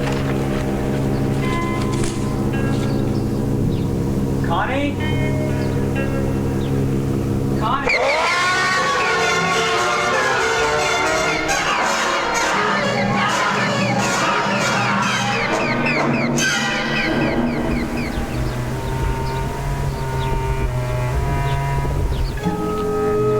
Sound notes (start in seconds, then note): 0.0 dramatic music; 8.7 Chooper screaming; 11.2 eerie music; 17.5 birds chirping; 20.3 dramatic music